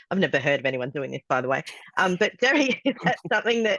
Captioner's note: laughs